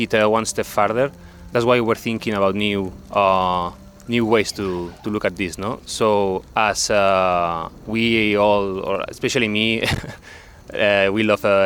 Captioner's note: laughs